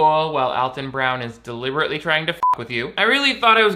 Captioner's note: beep